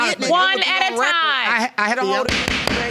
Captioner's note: gavel banging